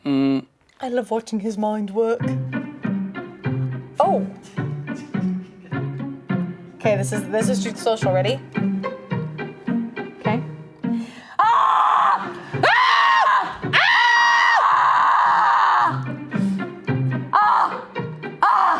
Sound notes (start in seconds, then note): 12.6 screams